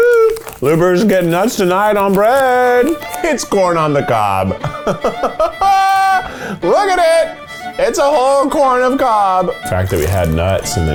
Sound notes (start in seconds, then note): 4.3 laughs; 7.2 upbeat fiddle music